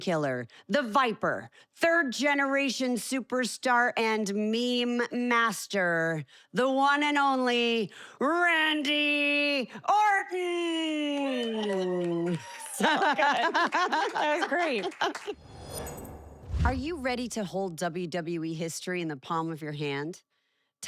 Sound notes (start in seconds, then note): 15.6 applause